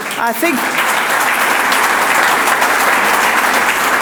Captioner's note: audience applauds